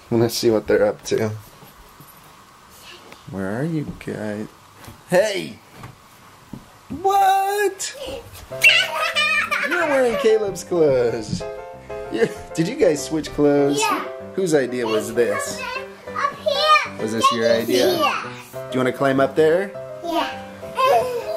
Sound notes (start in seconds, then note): 8.9 laughing; 12.2 chuckles